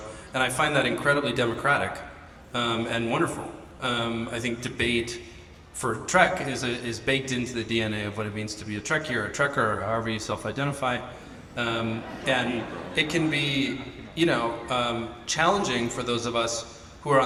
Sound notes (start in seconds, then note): 11.1 audience laughs